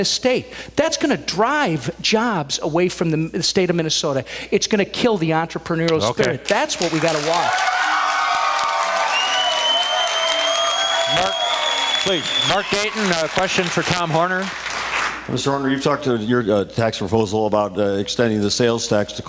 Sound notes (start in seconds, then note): 9.5 cheers, applause